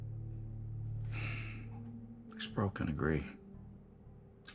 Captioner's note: sighs